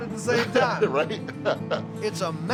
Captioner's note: laughs